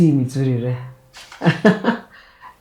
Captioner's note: laughs